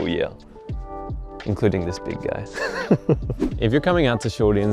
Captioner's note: chuckles